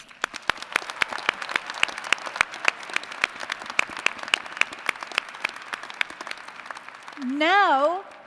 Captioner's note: applause